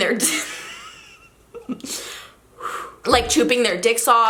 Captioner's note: chuckling